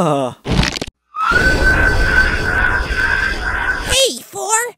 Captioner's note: screech